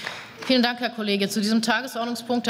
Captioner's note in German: Beifall